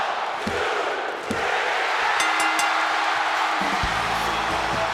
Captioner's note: bell chimes